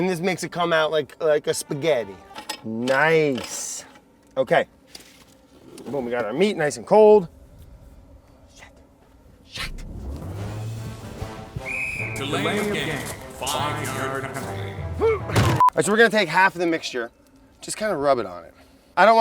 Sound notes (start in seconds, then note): 11.6 whistle blows; 15.3 wood thuds